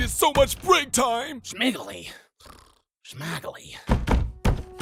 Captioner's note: snore